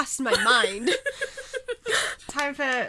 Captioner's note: hosts laugh